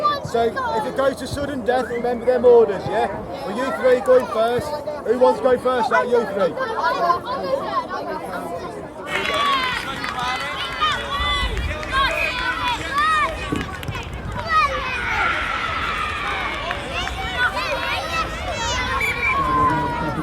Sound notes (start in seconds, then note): 11.0 anxious chatter; 18.9 referee blows whistle